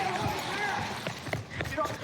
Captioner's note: footsteps running